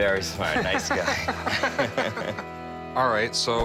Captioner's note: laughing